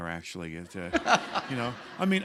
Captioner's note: laughter